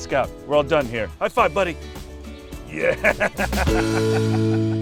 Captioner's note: laughter